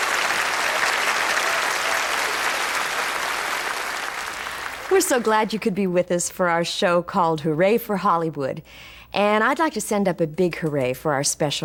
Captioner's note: applause